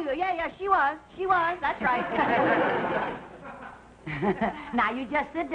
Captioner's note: audience laughing